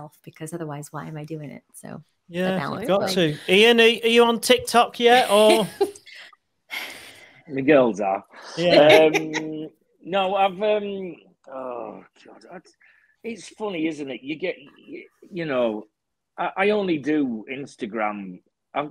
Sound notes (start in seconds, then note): 8.4 laughing; 11.6 groans